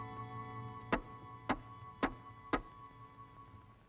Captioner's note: knocking on door